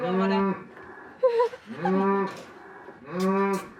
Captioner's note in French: rigole